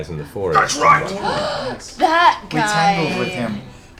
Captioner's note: gasps